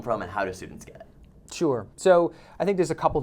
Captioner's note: voiceover